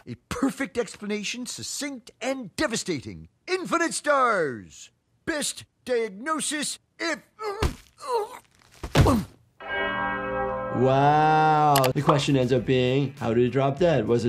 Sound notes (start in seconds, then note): 7.4 groaning; 9.6 bells dinging